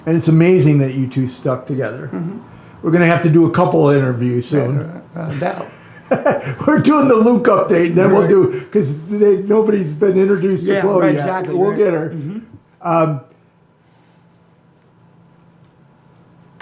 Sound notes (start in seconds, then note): 7.4 laughing